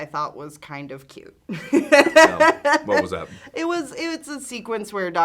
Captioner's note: laughs